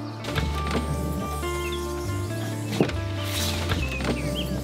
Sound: lighthearted music; campervan roof buzzing

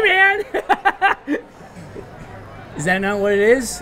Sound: laughs

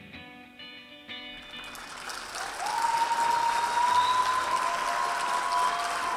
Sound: audience cheering and applauding

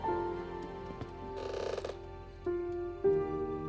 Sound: floorboards creaking

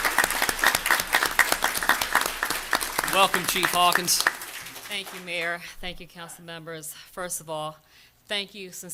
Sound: applause

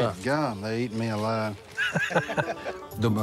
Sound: laughing

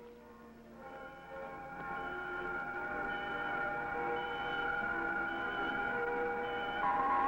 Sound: suspenseful orchestral music; alarm ringing

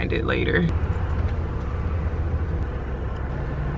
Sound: car engine

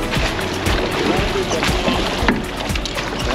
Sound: fish splashing

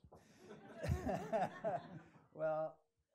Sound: laughing

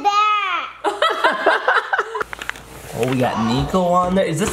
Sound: laugh

